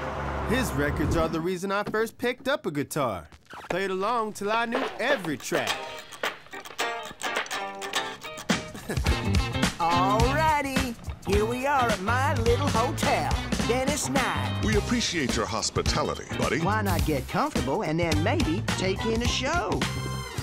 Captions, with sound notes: His records are the reason I first picked up a guitar. Played along 'til I knew every track. (upbeat guitar music) (chuckling) - Alrighty! Here we are at my little hotel, Venice Knight! - We appreciate your hospitality, Buddy. - Why not get comfortable, and then maybe take in a show?